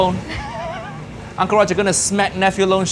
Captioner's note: laughing